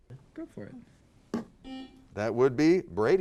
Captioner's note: buzzer sounds